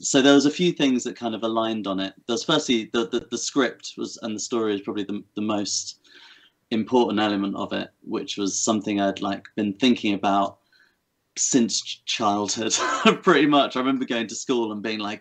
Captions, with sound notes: There was a few things that aligned on it. Firstly, the script on the story is probably the most important element of it which was something I'd been thinking about since childhood, [chuckles] pretty much. I remember going to school and being like,